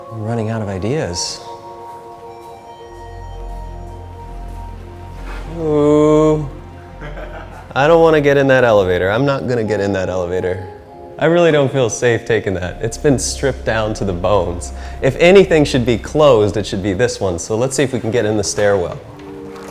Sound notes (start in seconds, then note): 2.4 elevator chime; 6.8 laughs